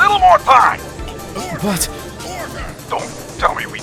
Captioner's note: Gallery chattering, Judge yelling!; gallery chattering